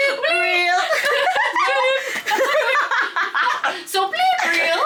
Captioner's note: group laughing